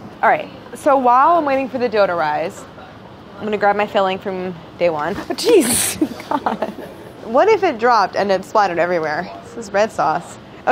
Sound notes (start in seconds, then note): 5.2 laughing; 5.2 gasp